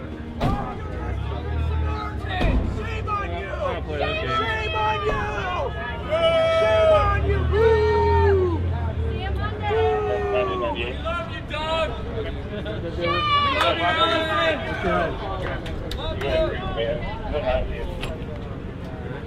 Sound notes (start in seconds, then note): 3.1 crowd; 6.4 crowd; 14.3 chatter